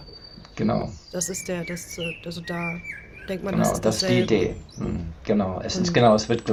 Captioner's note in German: räuspern